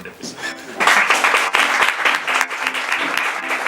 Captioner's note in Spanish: Aplauso